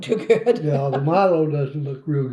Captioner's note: laughs